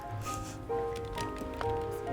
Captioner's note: snickers